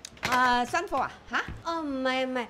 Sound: in Cantonese

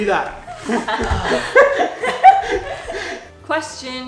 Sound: laughs

